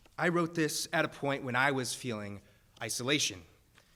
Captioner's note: none